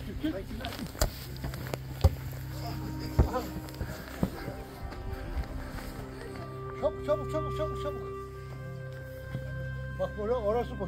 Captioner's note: football game sounds